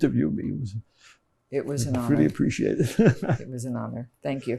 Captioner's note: laughing